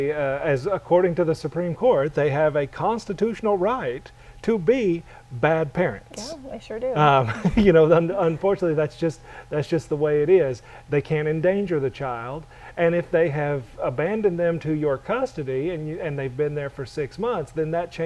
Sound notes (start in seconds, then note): 7.2 chuckle